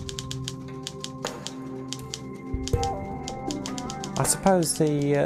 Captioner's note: typewriter clanking